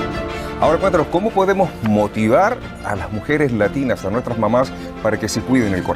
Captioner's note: speaking in foreign language